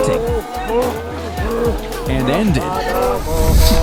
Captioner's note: people chanting